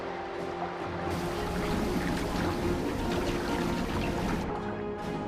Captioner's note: water rumbling; suspenseful music